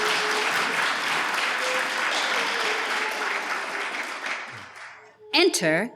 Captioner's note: we hear audience applause